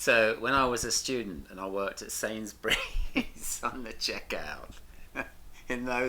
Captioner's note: laughs